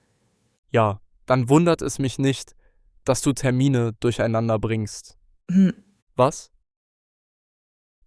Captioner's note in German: räuspern